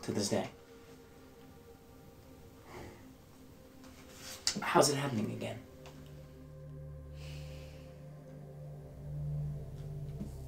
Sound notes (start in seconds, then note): 7.1 sighing